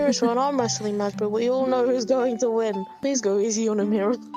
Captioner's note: laughing